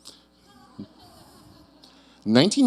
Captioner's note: audience chuckling